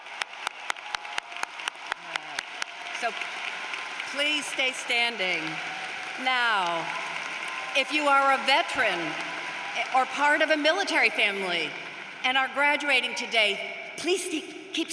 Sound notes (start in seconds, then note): 1.6 applause